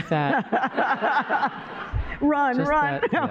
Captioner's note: laughter